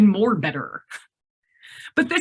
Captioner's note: laughs